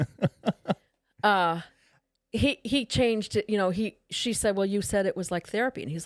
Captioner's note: laughing